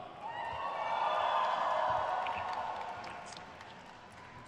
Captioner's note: crowd cheers